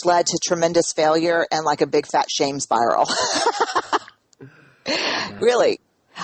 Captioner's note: laughs